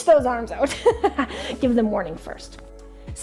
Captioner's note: laughing